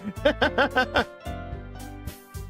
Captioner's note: laughs